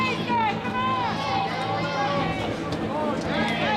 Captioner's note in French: acclamations de la foule